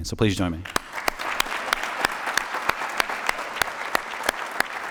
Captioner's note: applause